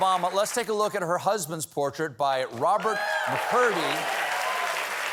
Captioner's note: applause